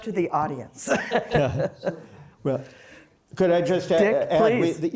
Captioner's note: laughter